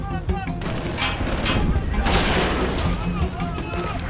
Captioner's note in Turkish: Silah sesleri